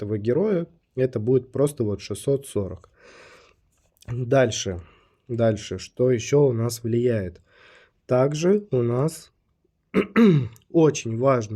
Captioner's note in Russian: откашливается